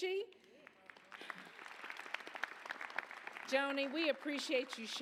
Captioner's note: applause